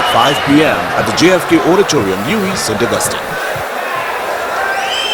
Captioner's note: wild applause and cheering for 22 seconds